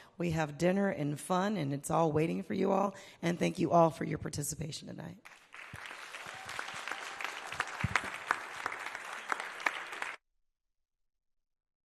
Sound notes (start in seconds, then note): 5.2 audience applauding